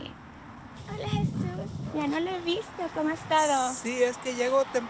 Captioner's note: speaking in Spanish